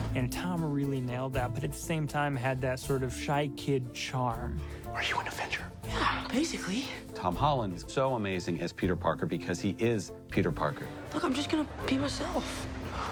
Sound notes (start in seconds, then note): 4.8 whispers